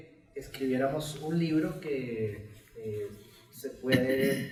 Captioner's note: speaks in Spanish